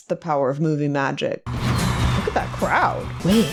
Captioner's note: crowd cheering